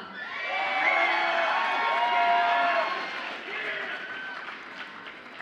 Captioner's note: audience applauds and cheers